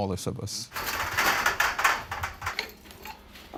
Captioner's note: tools clanging